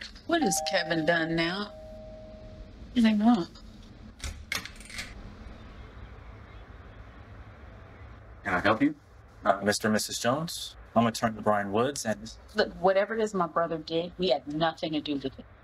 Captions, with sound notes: What has Kevin done now? [Doorbell ringing] What do they want? [Door open] Can I help you? Mr. and Mrs. Jones. I'm attorney Bryan woods and... Look whatever it is my brother did we had nothing to do with it.